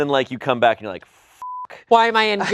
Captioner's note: beep